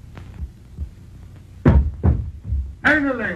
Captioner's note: banging sounds